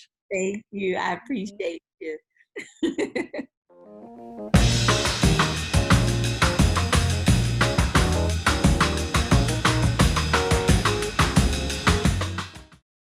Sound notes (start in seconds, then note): 2.6 laughing; 4.5 upbeat music